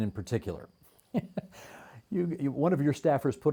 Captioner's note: chuckling